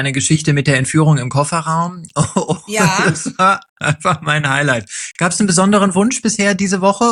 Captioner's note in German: gelächter